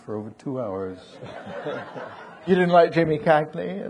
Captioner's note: audience laughing